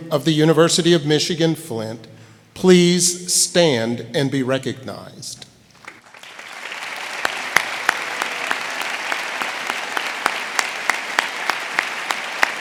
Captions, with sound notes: of the University of Michigan Flint, please stand and be recognized. (audience applauding)